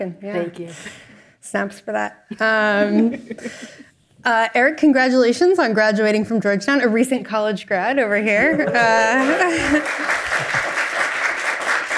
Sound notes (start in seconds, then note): 2.3 chuckles; 9.1 all applaud